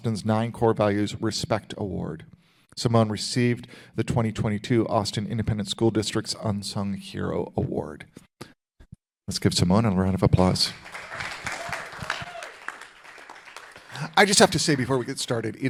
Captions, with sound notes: 9 Core Values Respect Award. Simone received the 2022 Austin Independent School District's Unsung Hero Award. Let's give Simone a round of applause. (audience applauding) I just have to say before we get started,